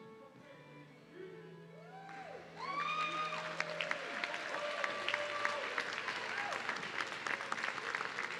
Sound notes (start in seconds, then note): 1.9 audience cheering